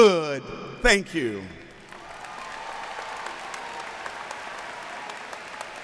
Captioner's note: applauding